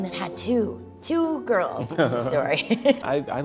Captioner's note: laughs